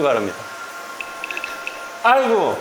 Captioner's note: spatter